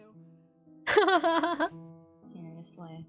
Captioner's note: ROSE laughs